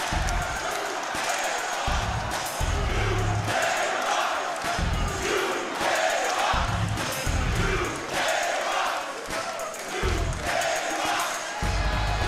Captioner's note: crowd chants "new day rocks"